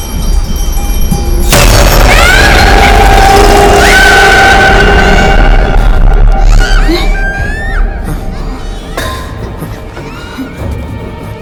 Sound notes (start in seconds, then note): 1.6 screaming